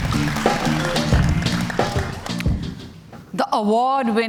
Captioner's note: cheers and Applause